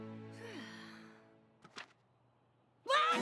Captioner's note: sighs